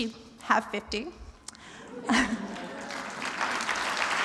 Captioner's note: applause